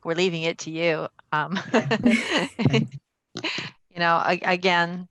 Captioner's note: laughter